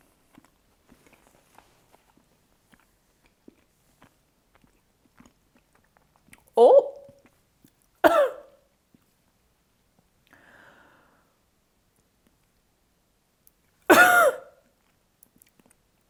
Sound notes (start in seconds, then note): 8.1 cough...... wheeze